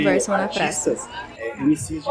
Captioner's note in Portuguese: barulho da plateia se dispersando ao fundo